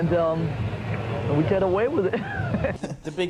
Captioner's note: laughs